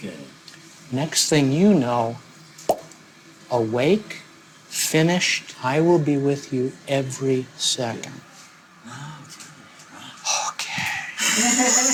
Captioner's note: popping sound